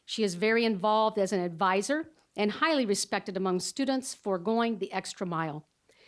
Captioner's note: none